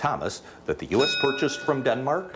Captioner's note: bell dings